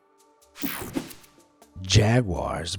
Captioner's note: screen whooshing